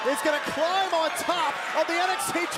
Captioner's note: crowd cheering